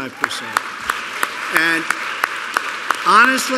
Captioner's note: applause